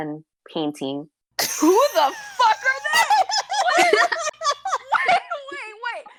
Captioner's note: wheezing & laughter